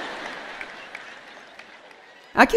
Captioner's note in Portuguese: audiência ri